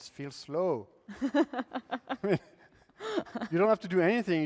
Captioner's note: laughter